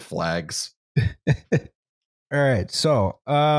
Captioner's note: chuckles